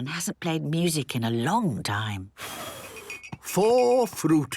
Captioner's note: blows